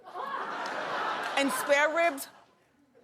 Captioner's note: audience laughing